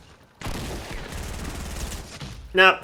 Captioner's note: gunfire